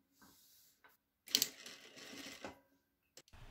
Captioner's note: sewing machine sound